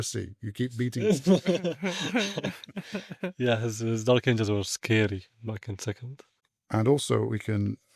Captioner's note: laughs